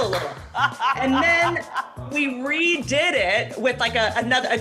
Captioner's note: laughs